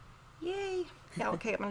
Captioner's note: chuckles